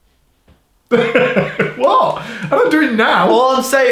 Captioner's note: laughing